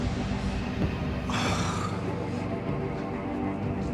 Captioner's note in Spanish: quejido